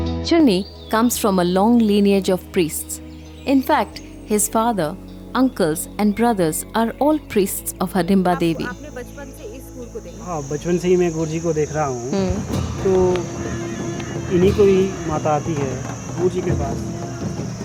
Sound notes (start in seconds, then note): 0.0 gentle music; 12.1 intense drumming; 12.5 metal clanking; 13.3 reed pipe sound